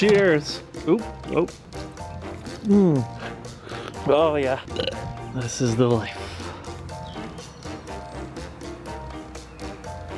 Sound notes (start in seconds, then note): 4.6 burps